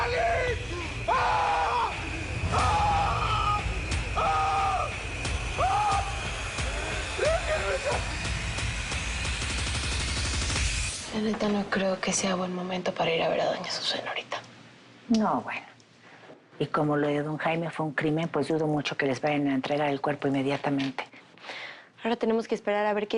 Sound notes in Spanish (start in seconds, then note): 3.4 Sigue gritando; 8.3 Llorando